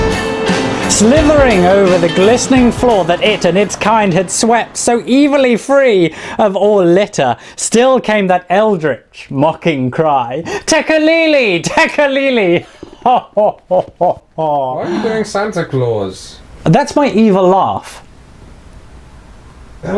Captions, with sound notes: Slithering over the glistening floor that it and its kind had swept so evilly free of all litter still came that eldritch mocking cry, "Tekeli-li!Tekeli-li!" (Ridiculous laughter) Why are you doing Santa Claus? That's my evil laugh.